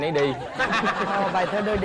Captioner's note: laughing